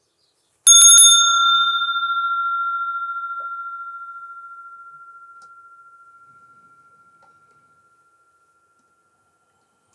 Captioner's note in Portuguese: som de sino